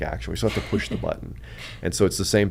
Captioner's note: laughs